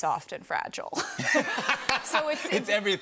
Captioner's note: laughter